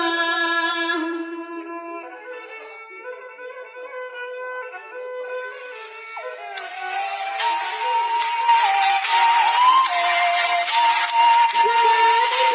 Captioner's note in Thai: ปรบมือ